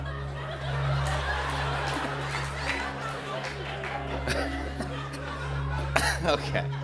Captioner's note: laughter